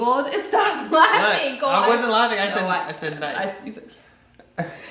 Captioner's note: laughs